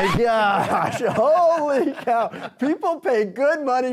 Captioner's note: Coyote laughs